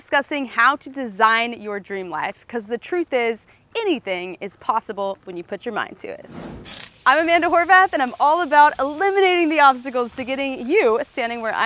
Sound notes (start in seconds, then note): 6.2 screen whooshing